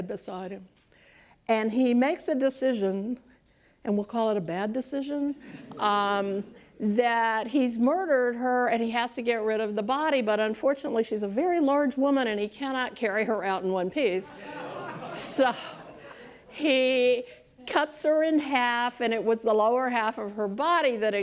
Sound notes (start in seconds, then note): 16.9 laughs